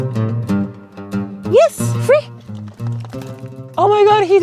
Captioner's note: paging loudly